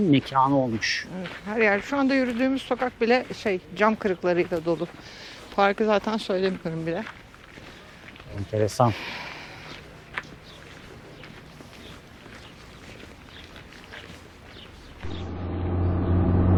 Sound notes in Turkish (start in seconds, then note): none